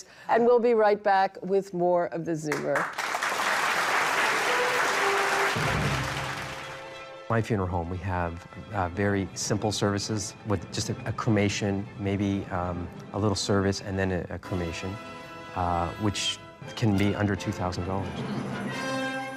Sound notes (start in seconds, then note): 2.5 applause